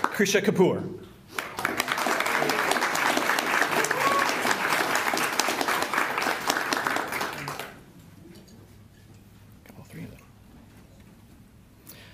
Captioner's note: applause